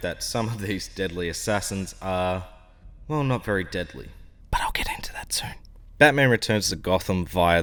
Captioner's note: whisper